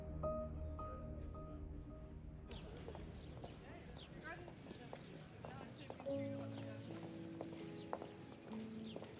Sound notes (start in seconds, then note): 2.5 birds tweet; 3.1 background chatter; 5.9 peaceful piano music